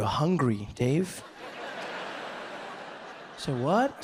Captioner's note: audience laughs